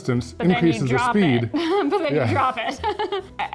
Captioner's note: laughs